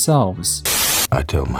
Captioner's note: TV static